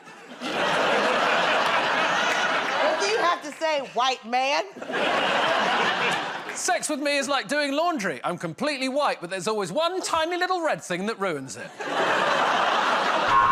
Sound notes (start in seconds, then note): 0.0 laughter; 4.7 laughter